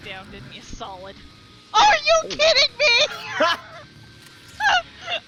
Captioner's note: laughs